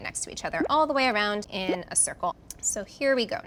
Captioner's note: drip sound